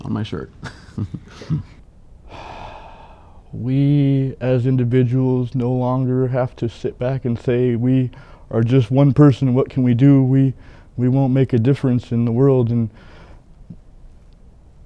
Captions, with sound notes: (laughs) - (sighs) We as individuals no longer have to sit back and say "we are just one person and what can we do? We won't make a difference in the world."